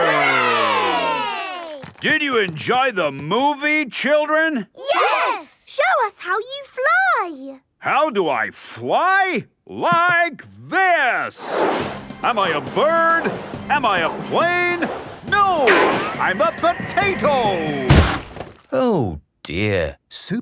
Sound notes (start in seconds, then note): 11.4 whooshing; 17.8 crashes